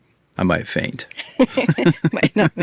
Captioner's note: all laughing